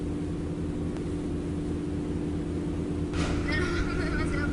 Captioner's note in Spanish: Ruido de motor